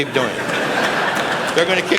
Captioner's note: laughter